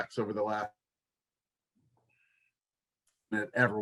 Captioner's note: audio cut